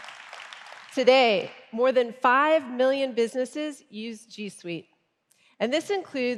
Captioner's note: applause